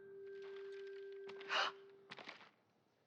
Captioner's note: gasp